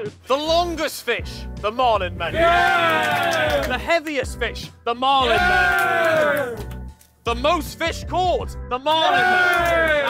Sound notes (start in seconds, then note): 2.2 cheers and claps; 5.2 cheers and claps; 8.8 cheers and claps